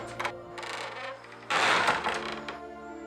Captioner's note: door closing; door creaking